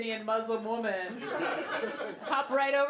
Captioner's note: laughter